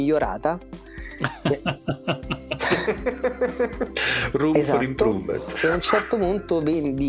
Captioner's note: laughs